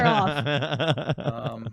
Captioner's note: laughing